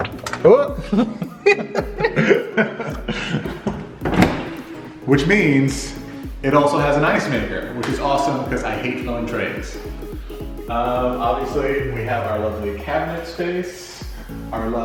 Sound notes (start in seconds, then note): 0.7 laughs; 1.5 exclaims and laughs